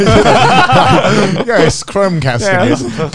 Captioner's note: both laugh